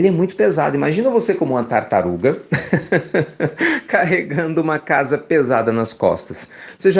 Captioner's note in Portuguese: risos